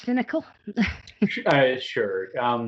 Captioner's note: laughs